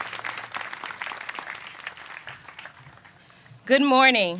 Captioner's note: applause